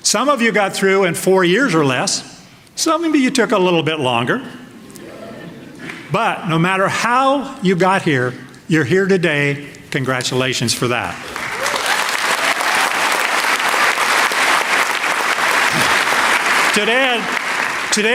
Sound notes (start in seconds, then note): 4.8 laughter; 12.8 applause